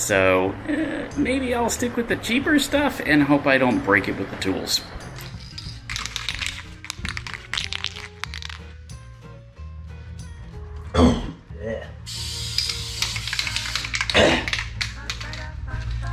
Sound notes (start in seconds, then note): 5.1 rattling paint can; 10.6 coughs